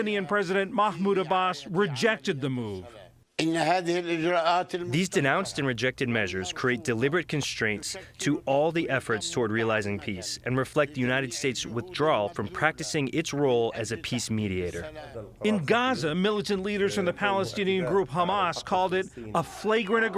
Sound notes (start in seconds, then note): 4.5 through translator